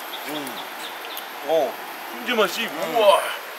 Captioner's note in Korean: 감탄